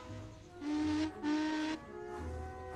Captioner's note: adam whistles